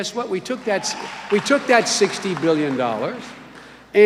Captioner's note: cheering and applause